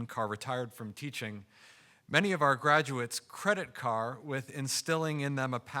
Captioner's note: none